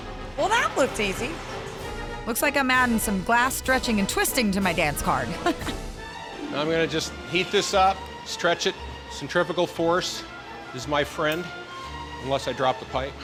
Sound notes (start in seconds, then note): 5.2 giggling